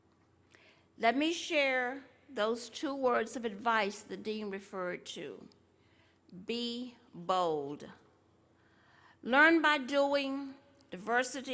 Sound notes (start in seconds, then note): none